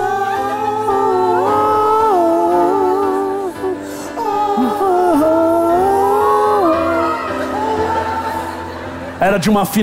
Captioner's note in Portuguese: grito